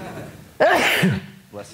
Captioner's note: guy sneezing